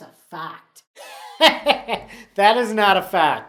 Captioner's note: laughs